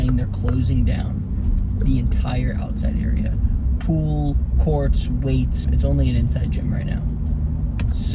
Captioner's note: none